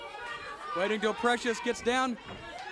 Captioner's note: crowd chatter